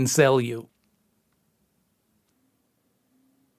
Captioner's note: tense silence